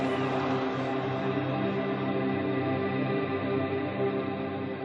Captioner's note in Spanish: cánticos